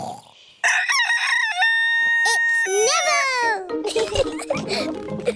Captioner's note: neville crows; both giggling